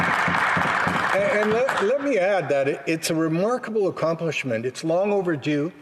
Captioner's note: applause